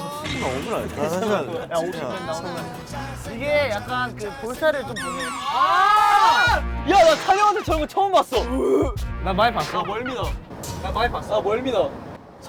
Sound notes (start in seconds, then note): 8.4 throwing up